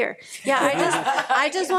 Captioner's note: people laughing